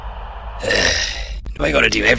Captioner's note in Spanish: suspiro